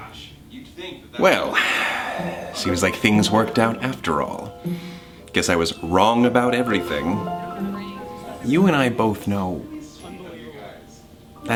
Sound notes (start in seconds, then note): 1.4 sighs